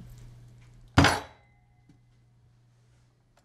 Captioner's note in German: Faust schlaegt auf den Tisch und das Besteck scheppert